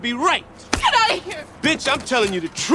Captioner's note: slapping